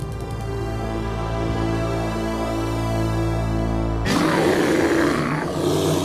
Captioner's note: growling